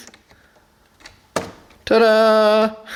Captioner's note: pop